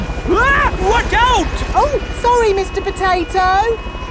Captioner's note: screams